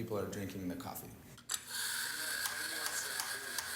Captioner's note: steam Hissing